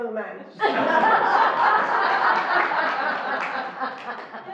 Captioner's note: laughing